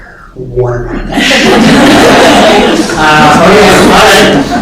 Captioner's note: laughter